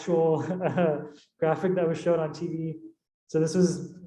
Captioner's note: chuckling